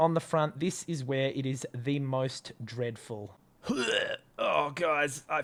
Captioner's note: gagging